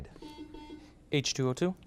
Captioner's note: buzzer beeps